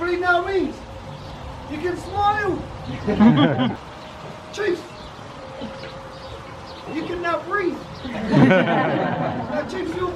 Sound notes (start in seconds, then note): 2.8 group laughs; 8.0 group laughs